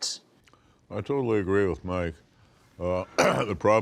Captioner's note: clears throat